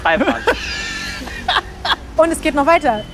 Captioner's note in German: lacht